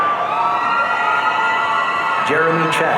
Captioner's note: audience cheering